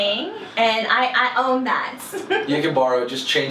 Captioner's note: laughs